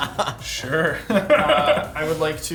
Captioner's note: laughs; players laughing